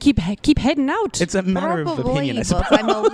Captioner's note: laughs